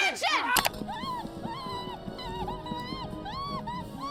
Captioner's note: Petunia screams